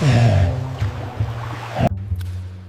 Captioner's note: water splashing